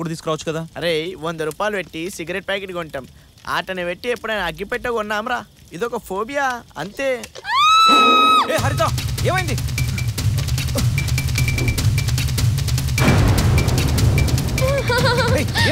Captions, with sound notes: Hey! We never buy matchbox along with a cigarette. It is a phobia. That’s it. [SCREAM] Hey, Harita! What happened? What happened?